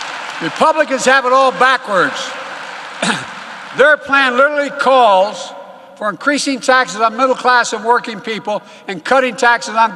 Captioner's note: applause